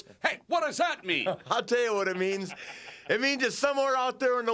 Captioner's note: Curt laughs